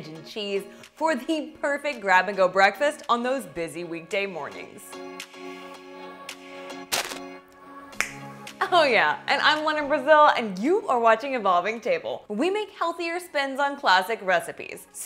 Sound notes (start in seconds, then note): 4.7 light music continues; 8.0 fingers snapping